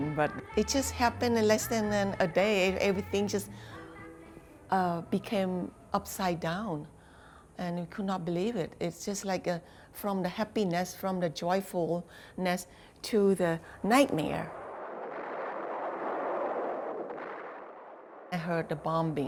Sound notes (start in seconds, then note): 14.5 bombs exploding